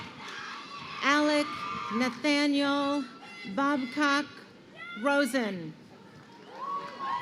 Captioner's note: crowd cheering